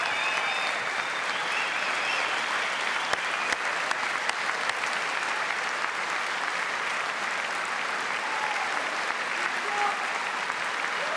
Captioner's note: cheers and applause